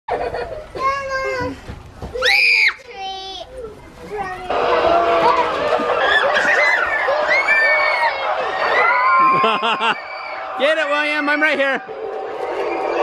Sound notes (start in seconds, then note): 0.1 children laughing; 2.2 screams; 6.0 screaming